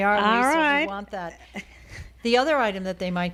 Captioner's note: Hablando ingl\s